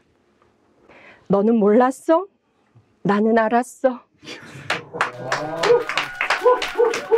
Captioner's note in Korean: 박수와 함성